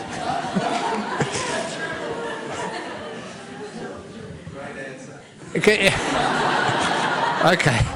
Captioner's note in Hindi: हँसी